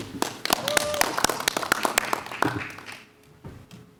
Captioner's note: cheering